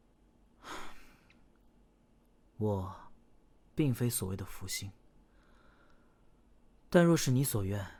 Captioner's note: sighs